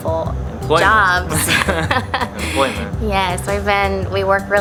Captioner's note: both laughing